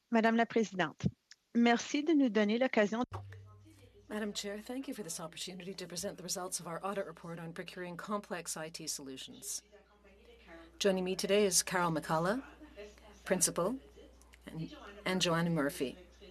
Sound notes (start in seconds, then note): 5.6 speaking French